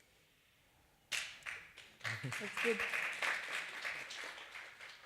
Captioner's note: appaluse